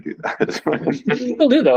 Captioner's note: chuckles